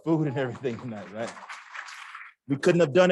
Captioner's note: applause